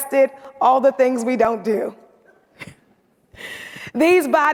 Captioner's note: chuckles